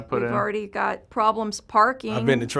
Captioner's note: voiceover